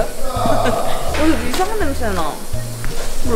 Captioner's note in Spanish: Gimiendo